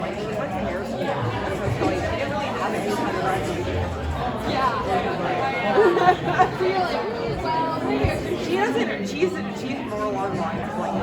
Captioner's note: chatter